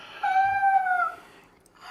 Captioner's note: cry laughing